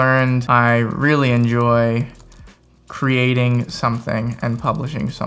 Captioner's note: fingers typing